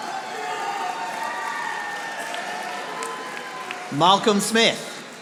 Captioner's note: audience applauding